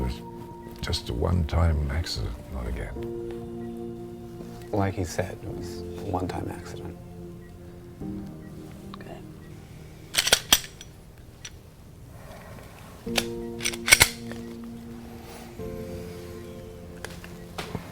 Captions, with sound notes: - No, that was just a one-time accident, not again. - Like he said, it was a one-time accident. - Good. (gun clicks) (gentle music)